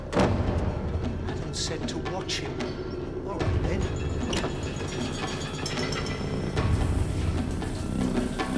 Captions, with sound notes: Adams said to watch him. All right, then. (water running)